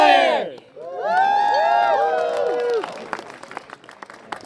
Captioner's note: cheering